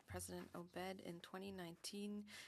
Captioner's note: speaking French